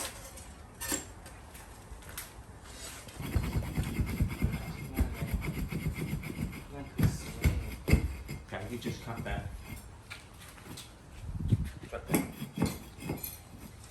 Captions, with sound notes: (scraping) Okay, you just cut that. Cut that.